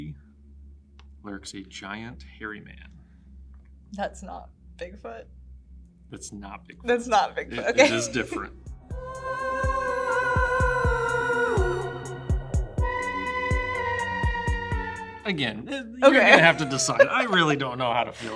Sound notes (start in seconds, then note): 7.5 laughs; 16.0 laughs